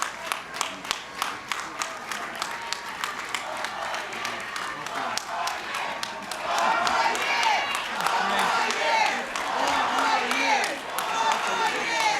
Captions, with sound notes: - [Crowd] Four more years! Four more years! Four more years!